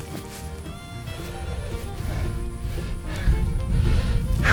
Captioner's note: heavy breathing